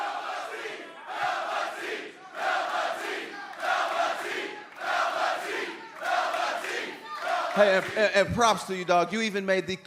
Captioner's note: crowd cheering